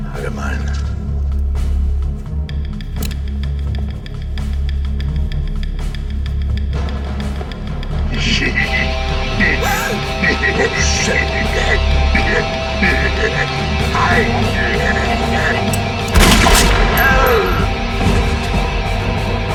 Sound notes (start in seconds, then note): 4.0 tense dramatic music; 8.2 Torrez laughing; 9.6 Heather gasps; 15.0 laughs; 16.1 gunshot fires